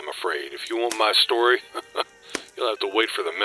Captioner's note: chuckle